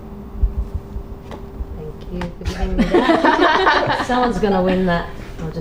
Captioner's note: band laughs